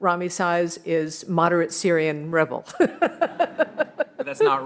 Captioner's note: laughs